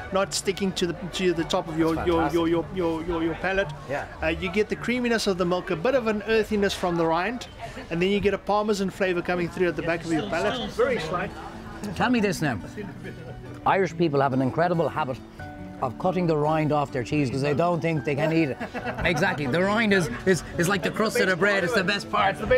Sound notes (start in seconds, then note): 18.2 laughter